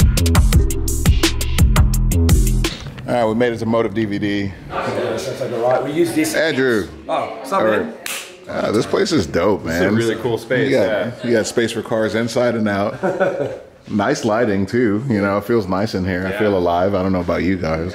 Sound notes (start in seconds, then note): 8.5 hand smacks; 12.8 laughing